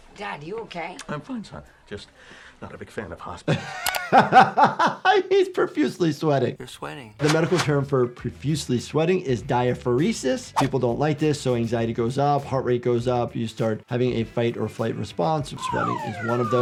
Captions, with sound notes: - Dad, you okay? - I'm fine son. Just not a big fan of hospitals. (doctor laughs) - He's profusely sweating. - You're sweating. - The medical term for profusely sweating is diaphoresis. People don't like this, so anxiety goes up, heart rate goes up, you start having a fight or flight response. Sweating is one of those.